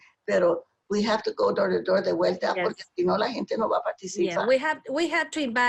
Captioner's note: speaking spanish